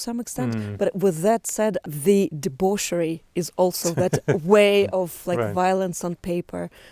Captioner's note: laughs